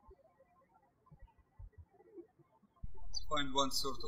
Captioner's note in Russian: птички щебечут